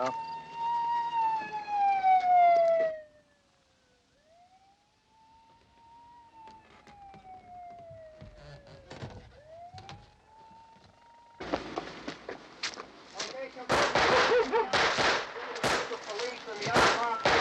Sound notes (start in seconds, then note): 0.3 siren wailing; 4.2 siren wailing in distance